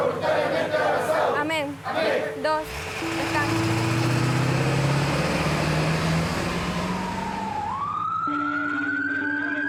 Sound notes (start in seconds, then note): 2.5 engine roaring; 6.4 siren blaring